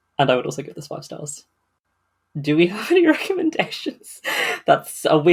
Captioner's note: laughing